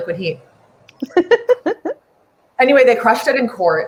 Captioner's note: laughs